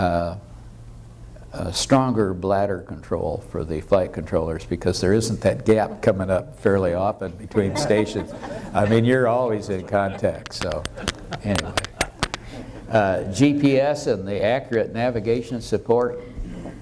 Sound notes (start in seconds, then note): 7.5 audience laughter